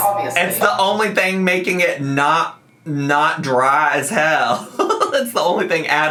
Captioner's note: laughs